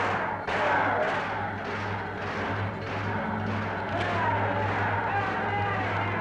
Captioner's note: men yelling continues; metal banging continues